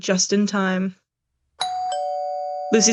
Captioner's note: doorbell rings